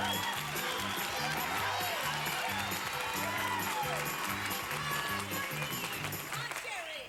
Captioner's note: audience applauding